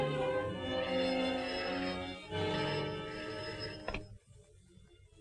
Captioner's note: phone ringing